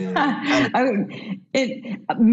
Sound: laughs

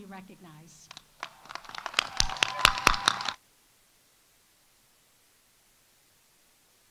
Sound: audience applauding; audience cheering

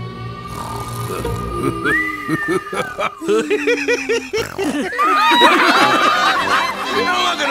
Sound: snoring; laughing

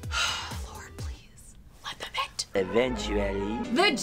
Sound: sighs

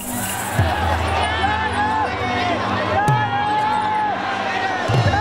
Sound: shouting and cheering

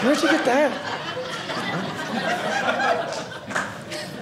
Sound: audience laughing

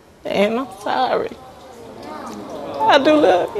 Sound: audience awws

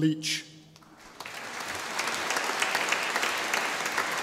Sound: audience applauding

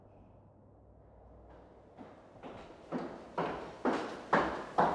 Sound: footsteps tapping

